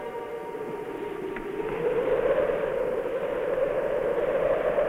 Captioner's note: wind blowing